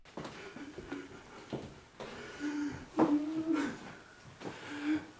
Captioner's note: Gerald sobbing